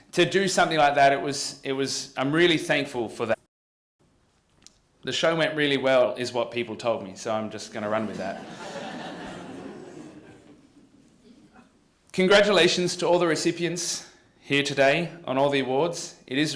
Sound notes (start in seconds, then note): 8.0 laughter